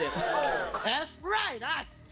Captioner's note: audience gasps